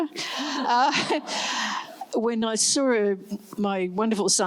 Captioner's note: laughs